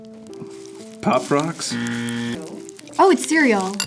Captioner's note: buzzer